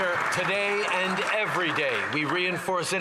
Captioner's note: some Applause